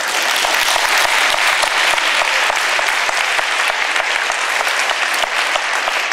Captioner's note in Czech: potlesk